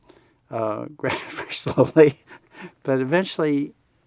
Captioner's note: laughs